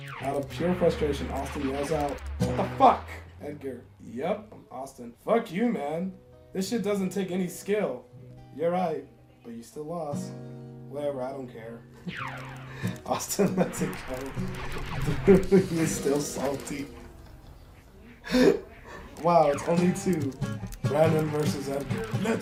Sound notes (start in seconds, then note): 12.1 video game blasting; 17.0 laughs